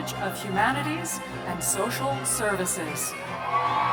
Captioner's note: cheers